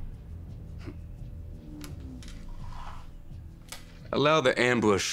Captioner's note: Dalton chuckles